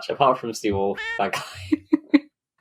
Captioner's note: laughs